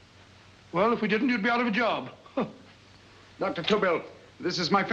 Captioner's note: scoffs